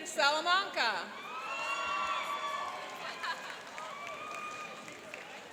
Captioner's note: cheering and applauding